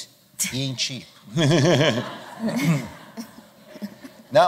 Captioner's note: laughter